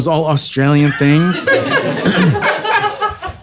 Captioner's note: audience laughing